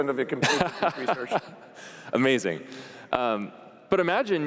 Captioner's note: laughing